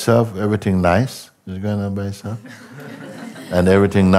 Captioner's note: Lachen